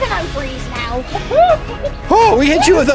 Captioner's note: clucks